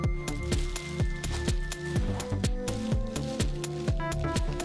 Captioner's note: bag rustling